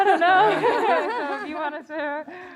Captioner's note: laughter